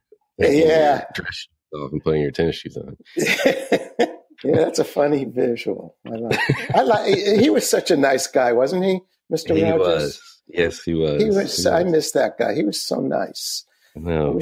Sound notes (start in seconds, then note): 6.1 laughs